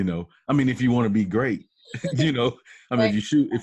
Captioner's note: laughs